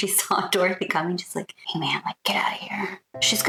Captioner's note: whisper